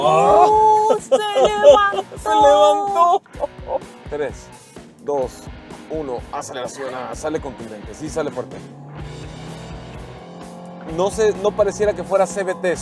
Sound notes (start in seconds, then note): 0.0 laughter; 8.5 engine revving